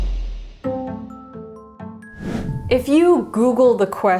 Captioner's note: light music; whooshing